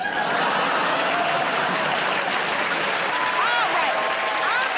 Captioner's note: laughter, applause